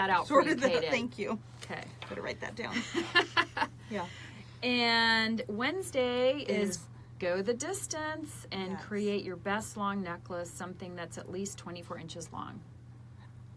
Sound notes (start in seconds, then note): 2.7 laughs